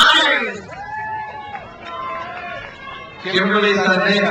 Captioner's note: crowd cheers